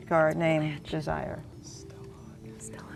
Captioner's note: whispering